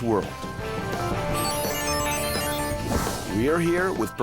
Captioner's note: electronic whirring